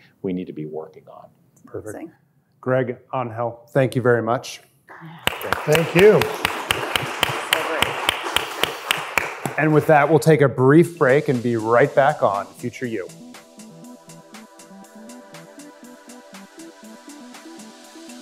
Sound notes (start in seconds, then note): 5.0 audience applauds; 14.0 upbeat music